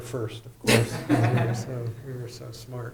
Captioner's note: laughter